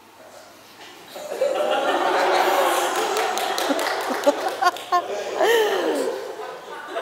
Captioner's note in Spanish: Risas en la sala